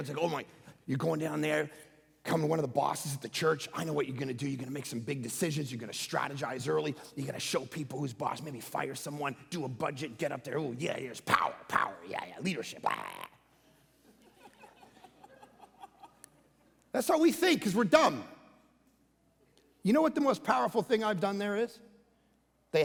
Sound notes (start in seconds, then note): 12.7 croaking; 13.9 congregation light laughing